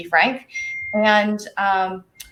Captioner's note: soft chime